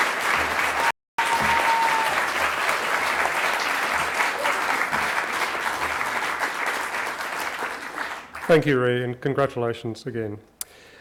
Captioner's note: cheering and applause